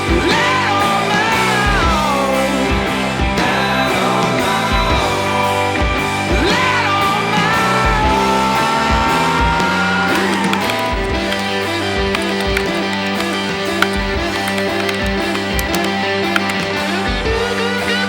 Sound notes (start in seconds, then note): 10.0 keyboard clicking